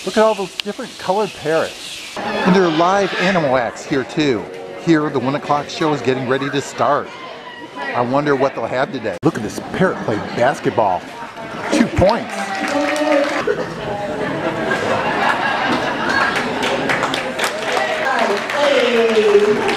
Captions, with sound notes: Look at all those different colored parrots. And there are live animal acts here too. Here, the one o'clock show is getting ready to start. I wonder what they'll have today. Look at this parrot play basketball. Two points. (audience cheers) (audience laughs and applauds)